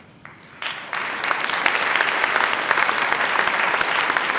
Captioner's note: audience applauds